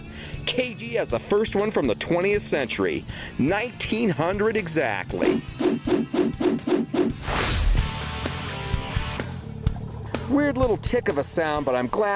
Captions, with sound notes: KG has the first one from the 20th century, 1900 exactly. (swooshing) (heavy metal instrumental) Weird little tick of a sound, but